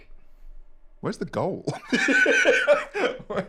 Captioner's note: laughs